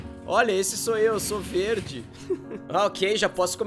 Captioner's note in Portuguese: risos